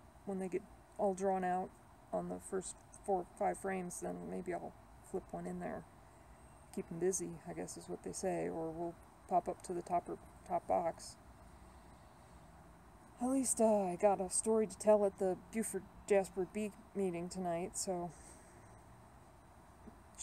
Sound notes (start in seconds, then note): none